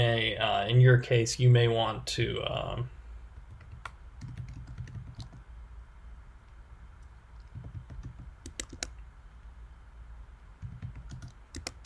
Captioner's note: typing